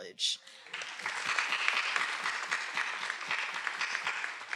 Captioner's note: everyone applauding